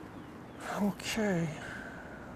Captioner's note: sighing